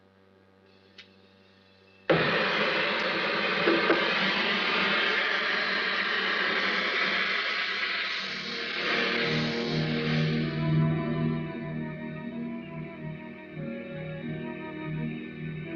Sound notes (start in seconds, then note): 2.1 sound of blowtorch; 11.1 intriguing music